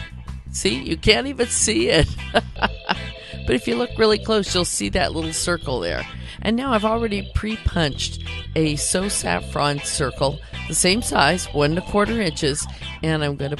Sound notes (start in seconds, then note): 2.0 laughs